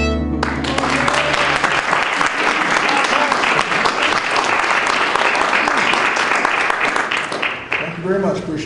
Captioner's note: applause